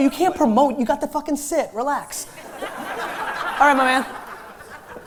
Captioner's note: laughter